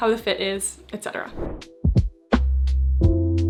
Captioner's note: screen whooshing; lively music